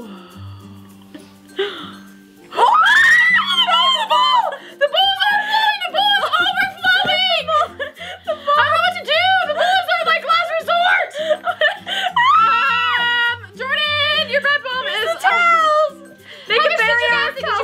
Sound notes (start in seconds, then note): 2.5 both screaming; 12.2 laughing and screaming